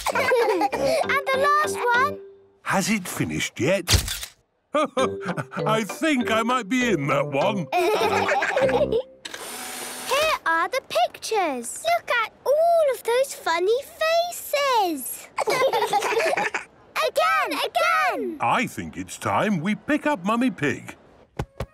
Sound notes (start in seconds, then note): 0.0 all laughing; 4.0 camera clicks; 9.3 whirring; 15.2 children laughing